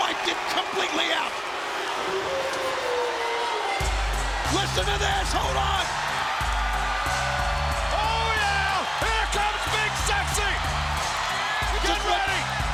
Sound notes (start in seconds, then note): 1.8 wolf howls